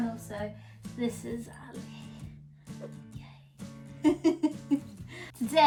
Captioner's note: laughs